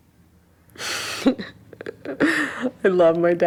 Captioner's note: laughing